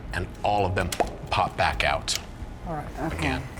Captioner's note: pop